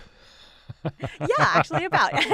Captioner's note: laughing